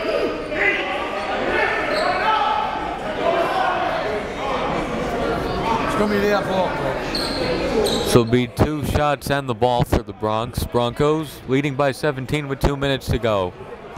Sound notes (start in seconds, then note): none